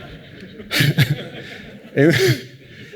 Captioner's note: laughter